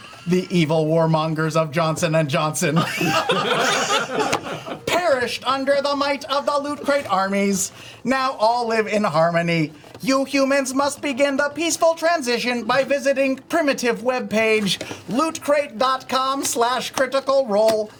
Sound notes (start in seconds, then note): 2.7 laughter; 4.5 robot voice